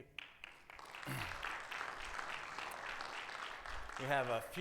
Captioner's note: attendees applaud